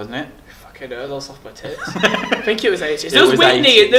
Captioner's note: laughs